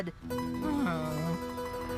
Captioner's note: groans